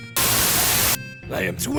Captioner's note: Static